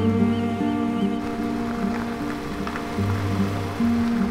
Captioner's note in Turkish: Araba yaklaşıyor